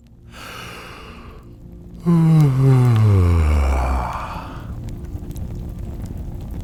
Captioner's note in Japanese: あくび